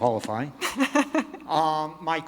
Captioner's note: laughs